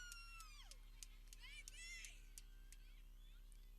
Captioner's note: people cheering